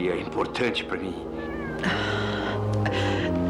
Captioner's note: meows